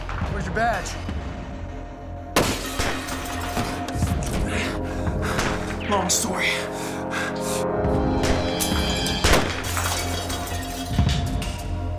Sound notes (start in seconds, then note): 2.3 gun shot; 7.7 gunfire